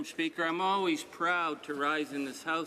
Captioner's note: speaking French